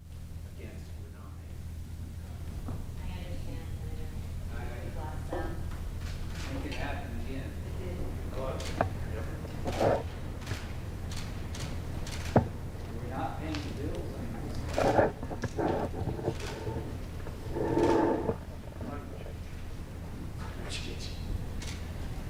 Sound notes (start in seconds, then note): 5.9 indistinct chatter